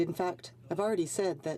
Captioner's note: speaking French